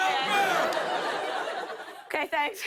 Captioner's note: laughter